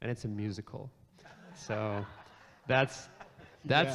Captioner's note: audience laughs